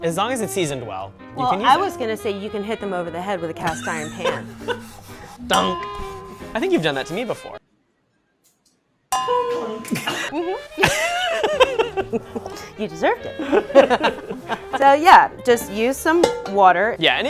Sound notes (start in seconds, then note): 3.6 laughs; 9.1 clangs; 10.7 laughter